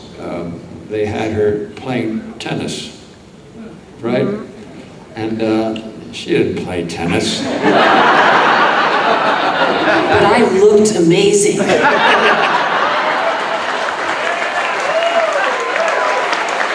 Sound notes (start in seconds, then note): 7.3 audience laughing; 12.6 audience laughing and cheering